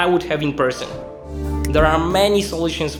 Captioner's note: whooshing air